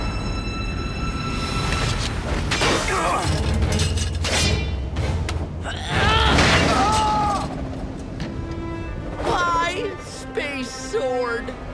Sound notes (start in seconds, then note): 2.8 groaning; 5.8 roaring